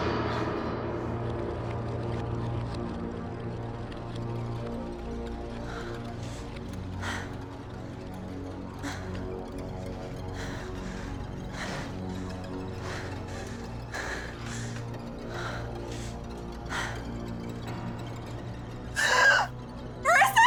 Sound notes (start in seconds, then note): 0.2 eerie music; 6.0 rapidly breathing; 18.9 gasps